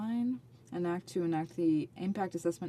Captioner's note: speaking French